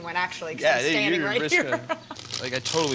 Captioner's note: laughing